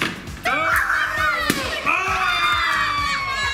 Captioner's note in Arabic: الصراخ